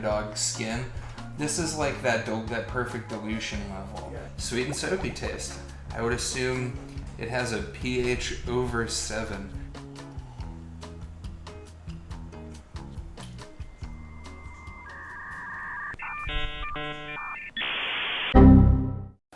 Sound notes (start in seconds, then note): 13.8 dial up tone; 18.3 error noise